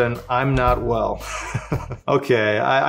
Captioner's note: laughs